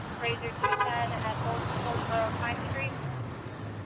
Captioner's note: none